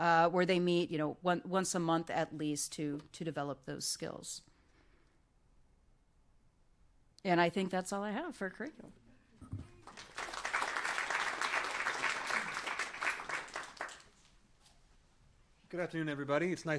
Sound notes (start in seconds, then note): 9.5 applause